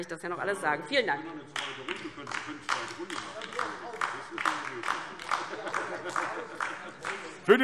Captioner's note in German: Beifall DIE LINKE